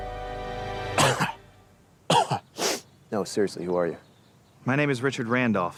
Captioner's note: coughs